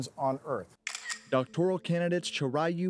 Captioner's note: camera shutters